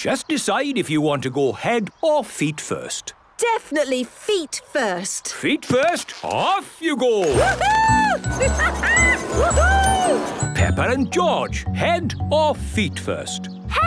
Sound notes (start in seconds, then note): 7.3 laughing